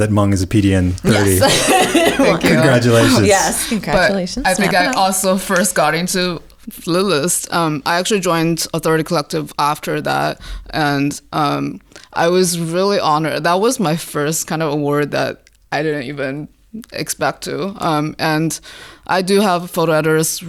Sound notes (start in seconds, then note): 4.1 laughter